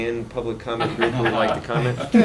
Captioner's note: laughter